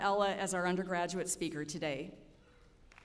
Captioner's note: applause